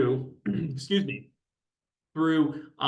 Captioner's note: clears throat